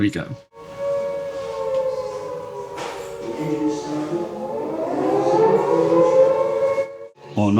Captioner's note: air Raid Siren